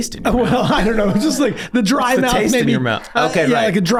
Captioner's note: laughs